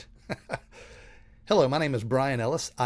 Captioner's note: chuckling